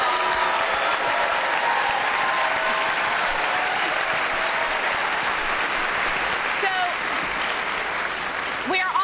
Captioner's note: applause